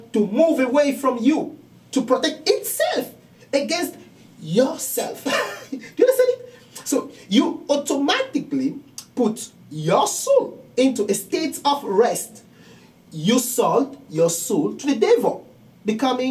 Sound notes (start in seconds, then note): 5.2 laughing